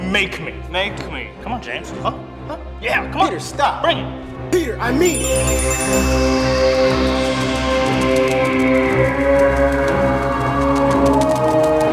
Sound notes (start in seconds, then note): 4.9 tink bells; 6.3 epic music; 6.3 wings flap